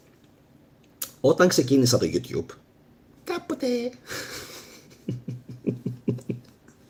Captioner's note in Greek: γέλια